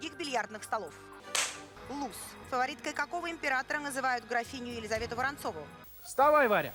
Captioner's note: Hikakin's handclap